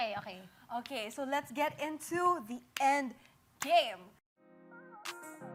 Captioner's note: claps; stirring music playing